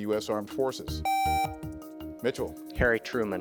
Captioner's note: contestant beeping